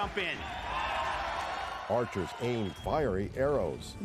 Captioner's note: loud cheering